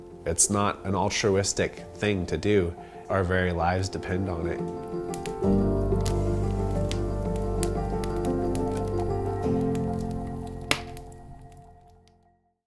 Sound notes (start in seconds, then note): 7.0 fire crackles